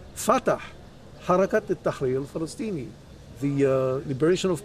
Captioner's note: speaking in Arabic